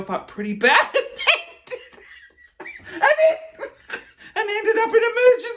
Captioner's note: laughing